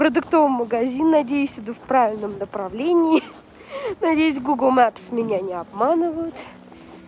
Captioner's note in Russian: смех